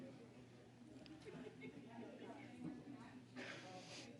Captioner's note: chatter